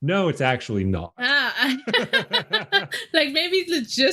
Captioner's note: both laughing